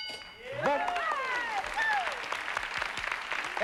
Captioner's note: cheering and applause